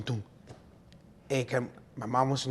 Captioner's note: speaking in foreign language